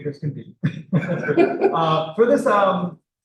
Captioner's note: laughter